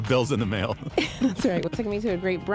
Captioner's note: laughing